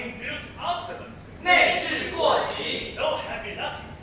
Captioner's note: Mandarin